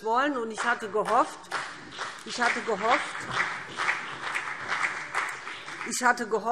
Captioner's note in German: Beifall BÜNDNIS 90/DIE GRÜNEN